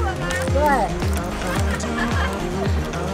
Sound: laughing

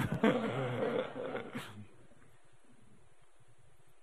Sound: audience laughing

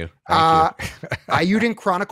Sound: laughs

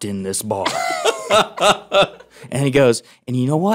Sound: laughing

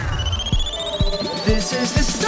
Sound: electronic beeping

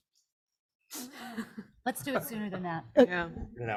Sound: laughs

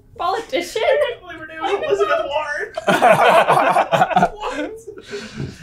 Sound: laughing; laughter

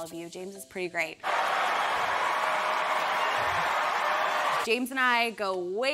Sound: audience cheering

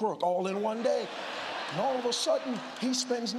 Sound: congregation laughs

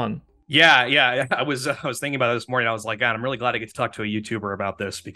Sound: laughs

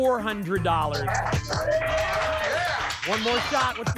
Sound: applause and cheering

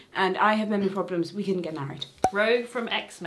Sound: cork popping

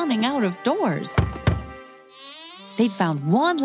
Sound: knocking

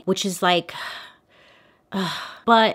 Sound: sighs

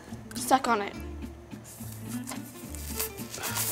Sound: sucking

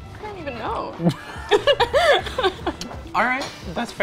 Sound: laughing

